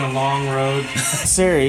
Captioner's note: laughs